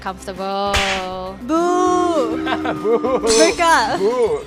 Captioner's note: booing